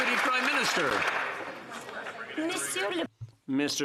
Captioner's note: some Applause